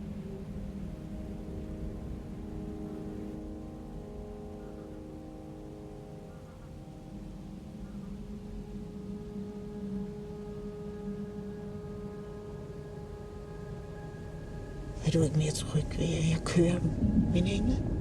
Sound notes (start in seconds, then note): 1.8 calm music continues; 5.0 wind blowing continues; 11.7 calm music continues